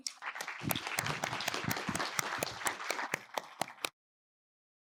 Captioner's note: audience applauding